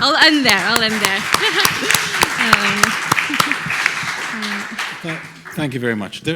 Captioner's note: audience applauding